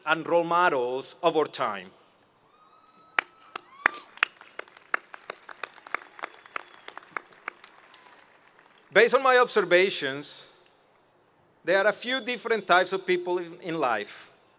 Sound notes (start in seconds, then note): 3.1 applause